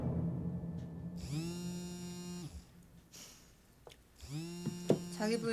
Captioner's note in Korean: 휴대전화 진동음